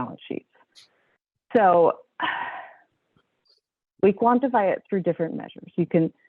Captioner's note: sigh